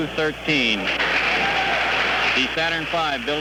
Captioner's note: firing room applause, cheering